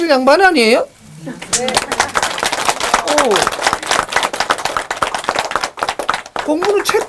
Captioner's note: audience applauds